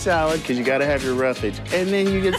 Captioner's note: laughter